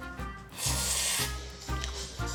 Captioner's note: slurping